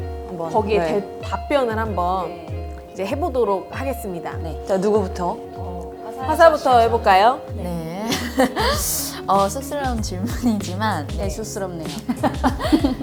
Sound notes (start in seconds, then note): 11.0 laughs